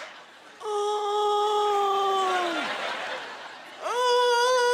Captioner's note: laughter; moaning, groaning